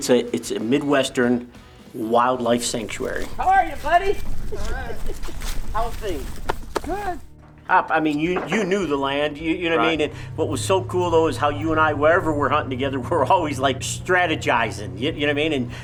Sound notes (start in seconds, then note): 6.6 hand patting; 7.6 pop Pop